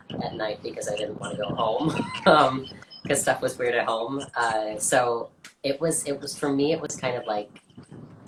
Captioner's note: laughs